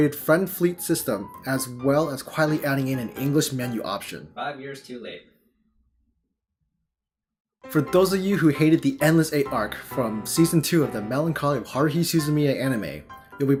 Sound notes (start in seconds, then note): 5.4 silence